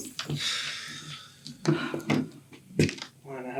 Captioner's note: Brandon sighs